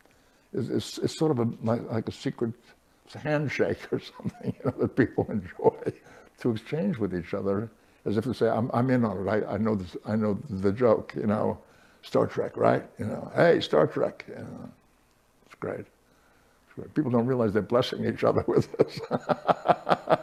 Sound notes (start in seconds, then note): 18.3 laughter